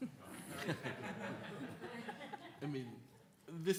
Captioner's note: attendees laughing